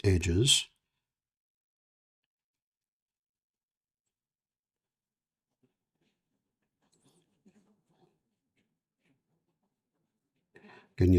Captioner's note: silence